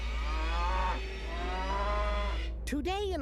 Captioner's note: cow mooing